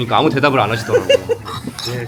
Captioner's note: laughs